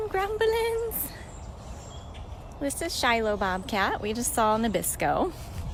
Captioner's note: birdsong